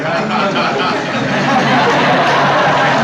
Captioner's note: laughter